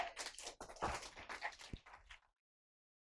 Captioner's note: clapping